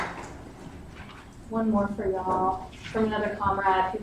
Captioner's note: clapping